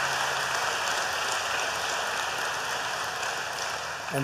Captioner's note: applause